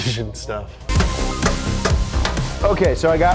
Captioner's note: hammer banging